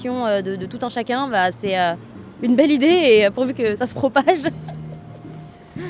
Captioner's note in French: rires